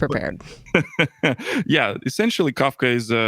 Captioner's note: laughs